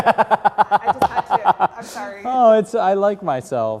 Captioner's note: laugh